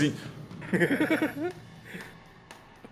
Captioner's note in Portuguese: risos